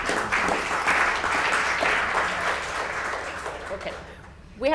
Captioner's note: audience applause